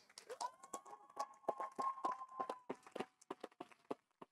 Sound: audience applauding

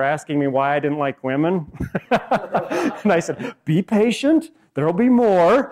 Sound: laughs

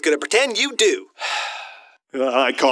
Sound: sigh

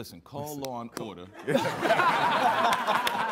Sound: all laughing

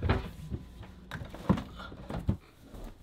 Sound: cabinet doors thudding; rummaging; clothing rustling

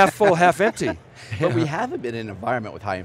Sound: laughing

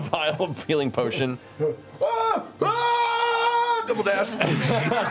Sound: yelling

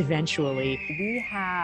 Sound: hawk cry

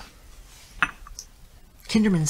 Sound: mug clinking

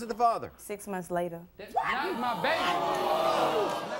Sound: audience boos

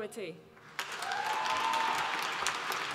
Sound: applause

